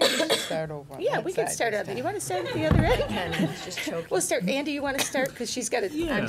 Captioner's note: laughter